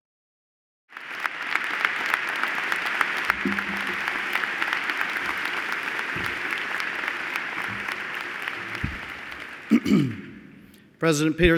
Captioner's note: applause